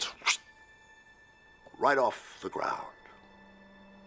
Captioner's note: imitates sharp wind